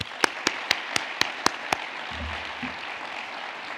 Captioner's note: audience applauds